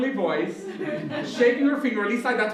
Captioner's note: laughter